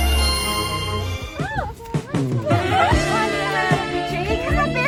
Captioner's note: girls gossipping